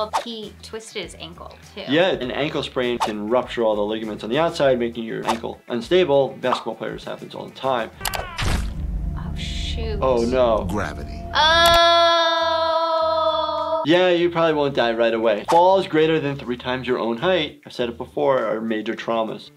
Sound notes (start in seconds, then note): 8.0 Red Justice screams; 11.4 screams